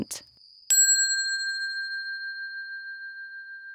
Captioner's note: bell ringing